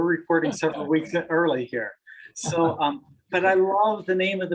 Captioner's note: laughs